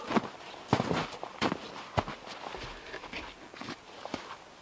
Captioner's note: log thumping; footsteps crunching